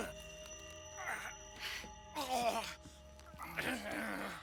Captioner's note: Benny groaning